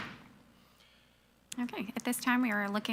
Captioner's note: gavel pounds